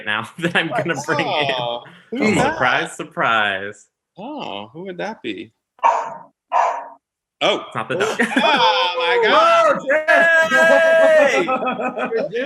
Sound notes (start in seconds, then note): 6.4 dog barking; 9.6 group cheering and laughing